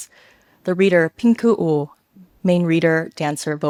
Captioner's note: speaks a foreign language